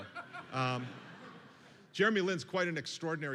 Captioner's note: laughter